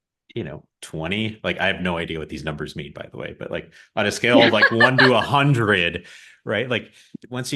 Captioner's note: laughs